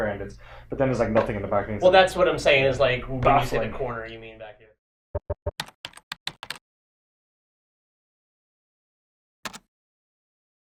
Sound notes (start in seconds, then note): 5.5 keyboard clicks